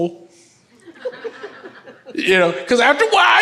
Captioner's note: audience laughs